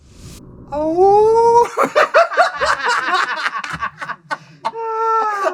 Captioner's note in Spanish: aullido; risas